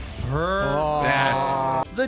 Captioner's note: A chorus of "Awws"